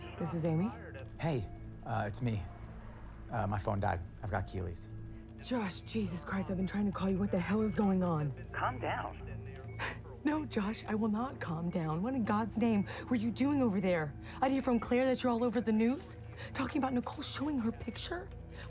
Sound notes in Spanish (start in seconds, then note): 9.6 Sollozos